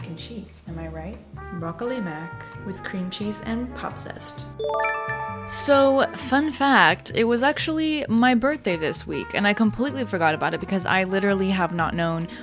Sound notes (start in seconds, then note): 4.6 chime